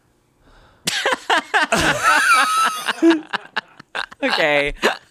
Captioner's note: everyone laughs